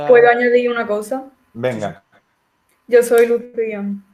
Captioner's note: laughs